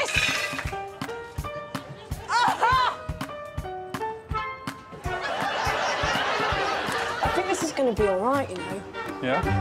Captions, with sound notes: -[exclaims] Look at this. -[upbeat music] -[exclaims] Ah-ha. -[slow salsa music] [audience laughing] I think this is gonna be all right, you know.